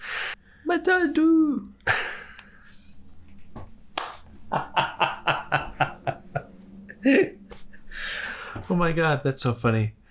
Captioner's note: laughs